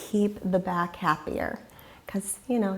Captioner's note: deeply inhaling